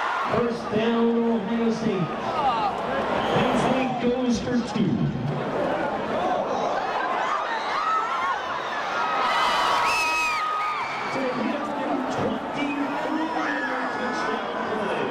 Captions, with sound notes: First down, Ohio State. Penn State goes for two. (crowd shrieking) - a 24-yard touchdown play.